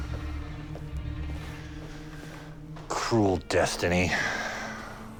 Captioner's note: none